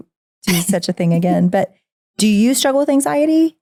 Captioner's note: laughing